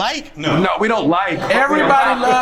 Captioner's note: overlapping chatter